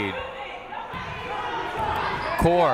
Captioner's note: people shouting in the crowd